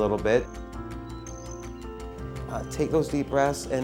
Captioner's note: birds chirping